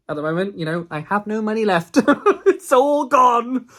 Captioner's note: laughs